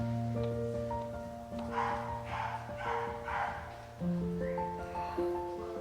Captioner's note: laughs